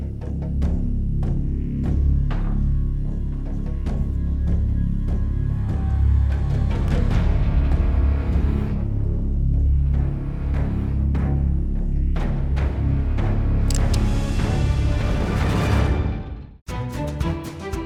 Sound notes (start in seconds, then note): 13.7 gun cocks